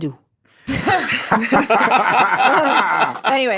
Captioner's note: hosts laugh